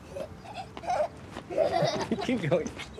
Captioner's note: laughs